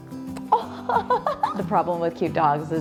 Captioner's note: laughs